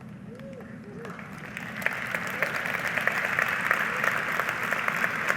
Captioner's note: audience applauding